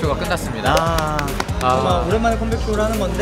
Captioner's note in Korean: 짝짝짝짝짝